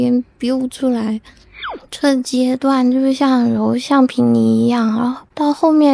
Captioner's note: boing